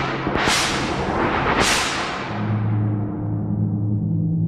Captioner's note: weapons whooshing